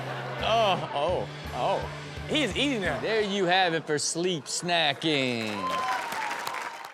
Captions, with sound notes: - Aw, oh, oh! He's eating that. There you have it for Sleep Snacking. (all clap)